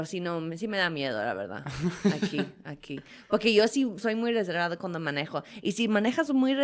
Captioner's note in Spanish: risas